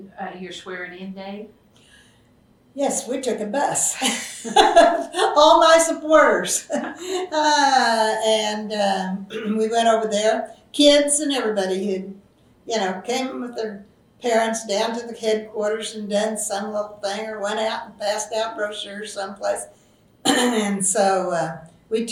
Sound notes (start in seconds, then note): 3.6 laughs